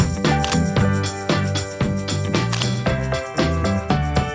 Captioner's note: upbeat music continues; camera button clicks; upbeat music continues